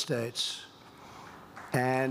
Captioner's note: applause